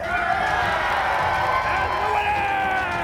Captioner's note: crowd cheering